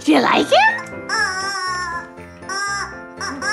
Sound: squawk

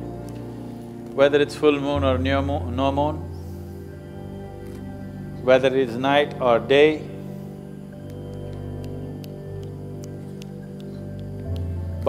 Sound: gestures snapping fingers

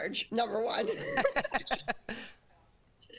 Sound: laughter

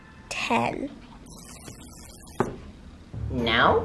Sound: buzzer sounds

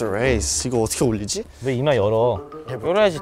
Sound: grumble

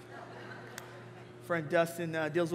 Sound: congregation laughing

